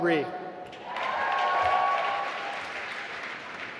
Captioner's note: applause